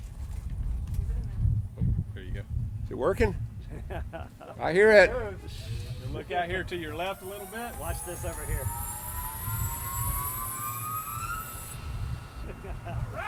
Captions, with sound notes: Here you go. - Is it working? I hear it. - Look out here to your left a little bit. Watch this over here. (loud shrieking)